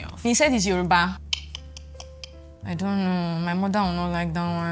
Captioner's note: clicking